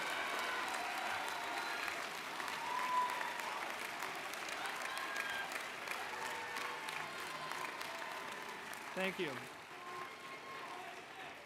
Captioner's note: cheers and Applause